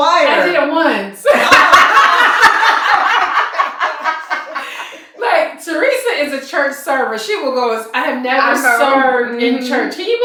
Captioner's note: laughter